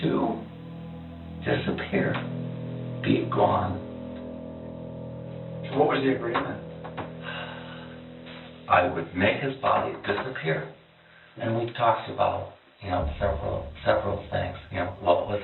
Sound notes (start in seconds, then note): 7.2 sighs